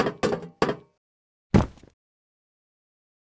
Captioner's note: thump